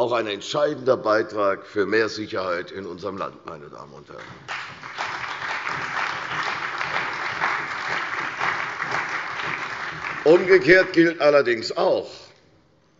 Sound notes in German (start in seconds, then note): 4.2 Beifall bei der CDU und dem BÜNDNIS 90/DIE GRÜNEN